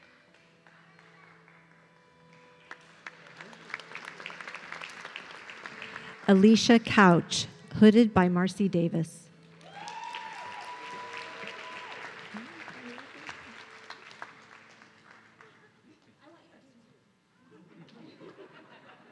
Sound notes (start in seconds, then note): 3.5 audience clapping; 9.6 audience cheering